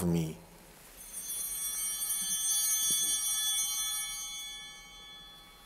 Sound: altar bell ringing

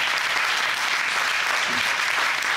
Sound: audience applauding

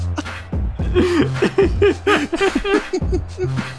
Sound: both Laughing

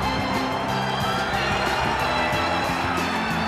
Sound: exultant cheering

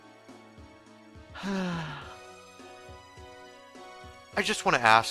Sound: long sigh

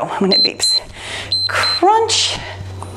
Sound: timer beeps

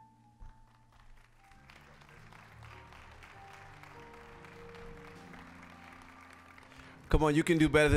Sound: scattered applause

